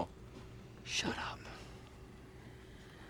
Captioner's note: whispers